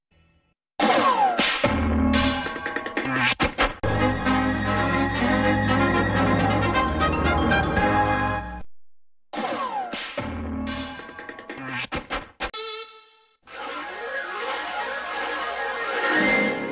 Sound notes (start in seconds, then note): 3.8 cartoon music finishes in a music snippet; 9.2 cartoon sounds resuming; 13.3 analog synth swirling sounds